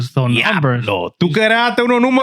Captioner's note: speaking In Foreign Language